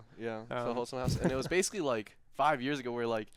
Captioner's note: chuckles